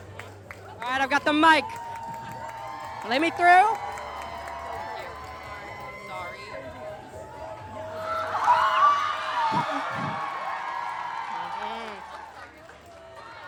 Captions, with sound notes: Alright, I've got the mic Lemme through [wilder crowd cheering]